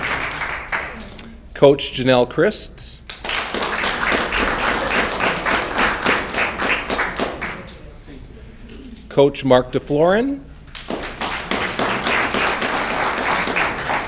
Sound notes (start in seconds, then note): 3.0 audience clapping; 10.6 audience clapping